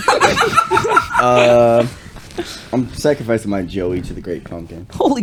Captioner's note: laughter